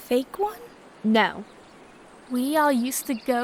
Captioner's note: exasperated